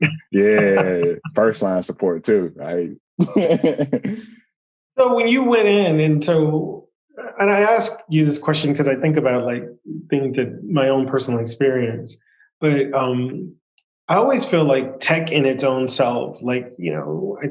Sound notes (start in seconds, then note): 0.3 laughs